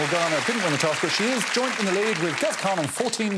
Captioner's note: audience applauding